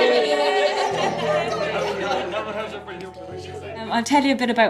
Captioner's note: joyful cheering